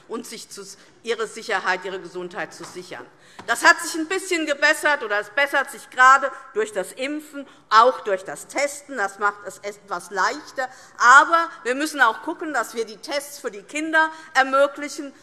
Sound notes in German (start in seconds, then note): none